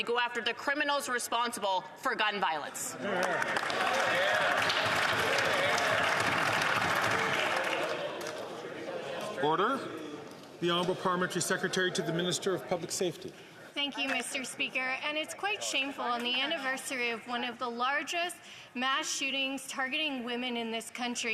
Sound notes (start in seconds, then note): 8.2 some Applause